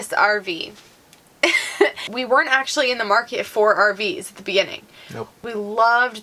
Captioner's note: laughing